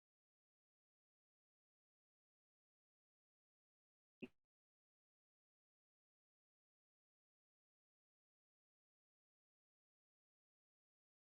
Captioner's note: audio cuts out